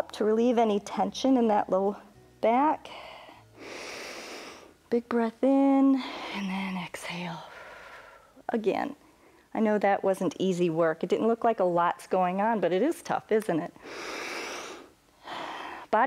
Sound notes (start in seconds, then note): 3.0 inhales; 7.6 exhales; 13.8 inhales and exhales